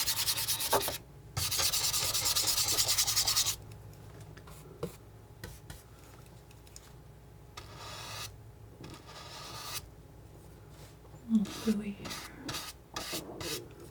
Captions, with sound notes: (scratching) Little gluey here.